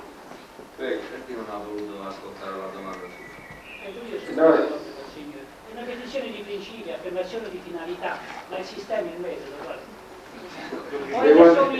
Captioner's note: italian